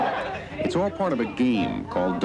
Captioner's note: laughing